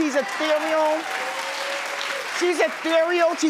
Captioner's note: audience cheers